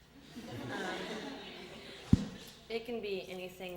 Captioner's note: audience laughter